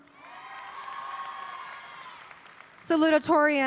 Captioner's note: audience applauding